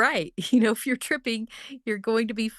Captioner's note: chuckles